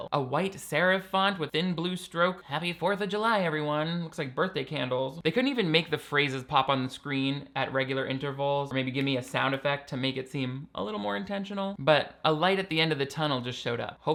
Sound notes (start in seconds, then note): 9.6 snaps